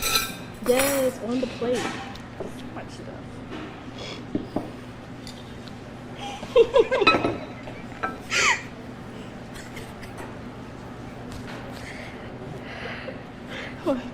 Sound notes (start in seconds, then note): 0.0 plate clattering; 6.6 laughing; 7.0 plate clatters; 9.4 snickering